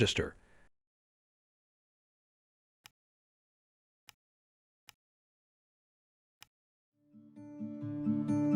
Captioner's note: mouse clicks; mellow music